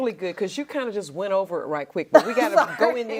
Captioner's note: laughs